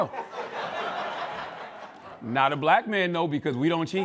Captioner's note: laughter